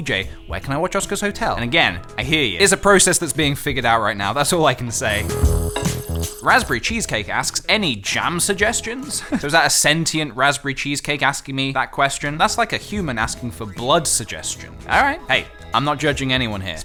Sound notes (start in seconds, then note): 5.0 slurp; 8.7 small chuckle